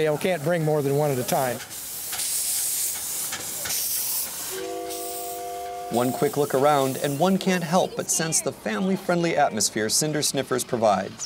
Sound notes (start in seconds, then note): 1.6 hissing; 4.5 whistle blows